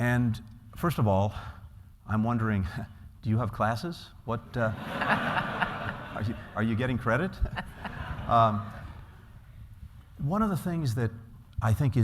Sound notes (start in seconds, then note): 4.6 laughter